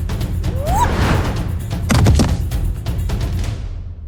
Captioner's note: Akari whooping